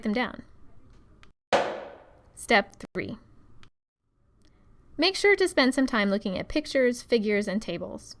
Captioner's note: loud footstep